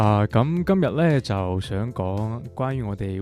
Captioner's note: Cantonese